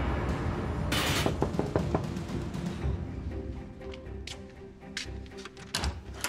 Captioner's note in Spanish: Toques en la puerta